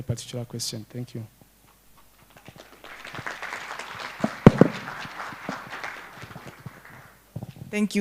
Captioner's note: applause